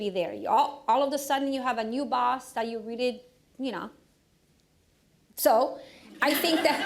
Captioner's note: laughter